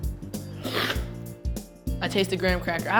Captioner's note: slurping